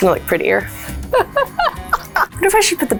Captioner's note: laughs